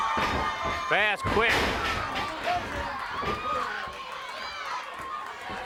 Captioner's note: blows thudding; body thudding; crowd cheering